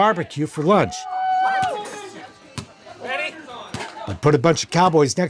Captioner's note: people cheering; ball banging